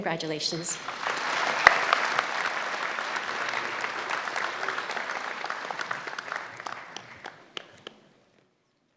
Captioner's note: applause